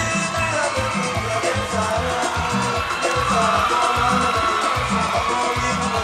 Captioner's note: audience cheering; singing in Spanish